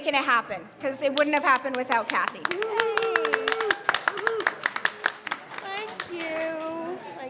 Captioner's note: applause